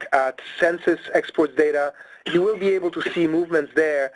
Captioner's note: person coughing